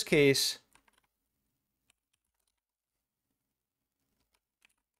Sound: keyboard keys clicking

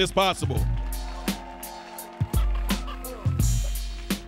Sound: audience cheering

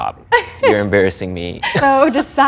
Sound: laughs

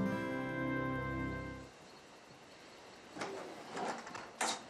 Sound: insects chirping

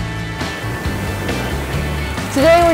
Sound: flame hissing

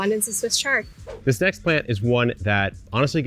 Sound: screen whooshes

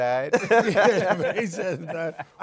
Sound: laughter

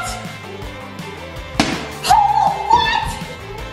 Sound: bottle thuds

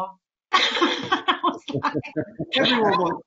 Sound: group laughs; laughs

